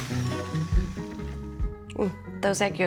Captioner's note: mixer stops